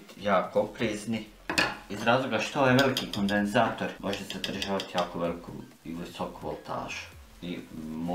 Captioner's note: taps on it with a metal rod